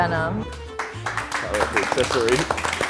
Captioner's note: group applauds